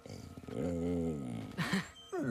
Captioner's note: growl; laugh